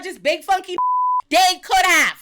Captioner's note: beep